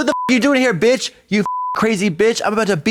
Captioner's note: beep